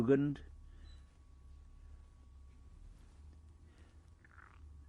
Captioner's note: pauses for 6 seconds